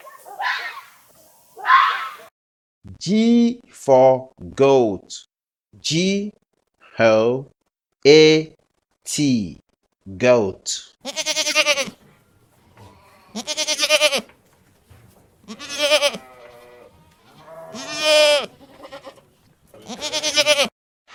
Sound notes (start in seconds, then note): 9.2 sound: Bleats